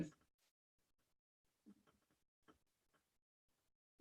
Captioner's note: brief silence